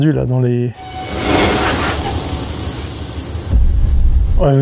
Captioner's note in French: Bruit de machine